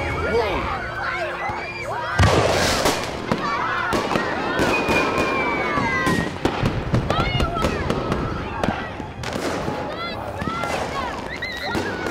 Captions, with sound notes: - Whoa. (children cheering) - Fireworks! (children laughing)